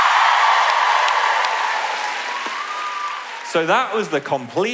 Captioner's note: audience cheer